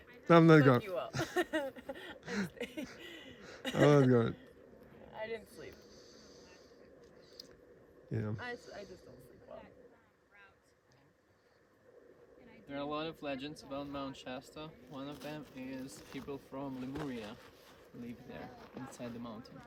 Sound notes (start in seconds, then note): 1.1 laughs